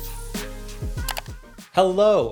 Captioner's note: upbeat music begins; mouse clicks